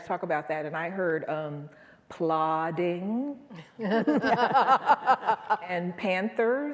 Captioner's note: chuckles